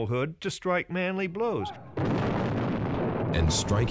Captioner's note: cannon fires